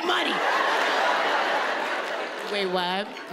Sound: audience laughing

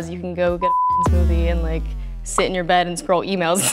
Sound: beep

